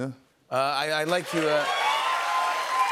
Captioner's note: cheers and applause